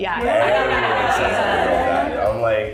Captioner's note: murmuring